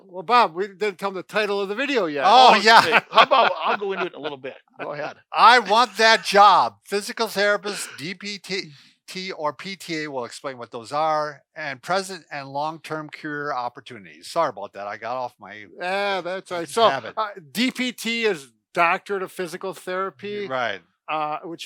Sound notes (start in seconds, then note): 2.2 laughs